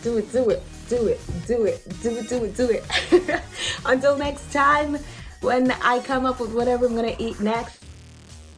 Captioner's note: laughs